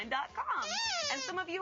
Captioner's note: squeaking